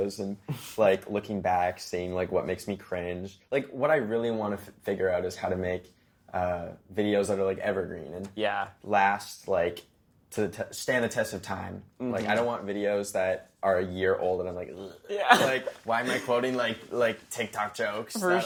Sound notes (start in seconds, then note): 15.1 laughs